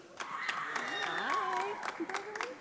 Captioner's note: audience applauding